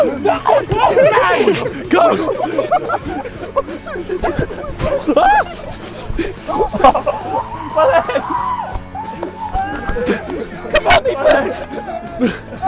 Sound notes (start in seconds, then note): 0.1 men laughing; 1.7 men chatting; 1.7 men laughing